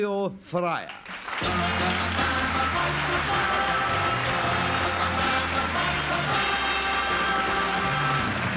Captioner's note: applause